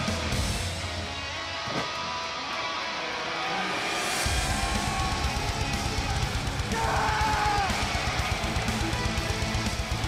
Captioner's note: crowd cheering